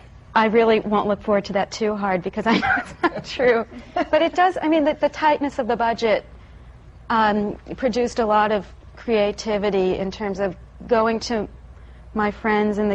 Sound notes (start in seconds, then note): 2.4 laughter